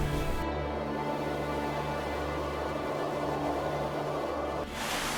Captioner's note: wind howling